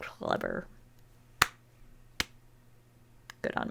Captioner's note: slow claps